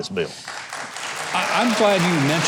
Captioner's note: applause